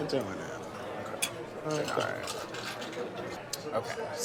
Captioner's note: glasses clink